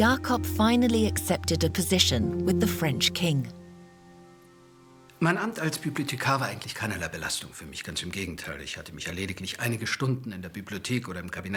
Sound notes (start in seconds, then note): 5.3 speaking in foreign language